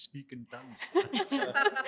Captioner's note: laughter